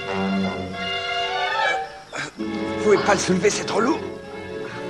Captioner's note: grunts